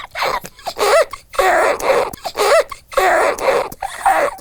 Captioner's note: squeaking shrilly